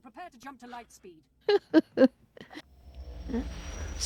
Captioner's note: laughter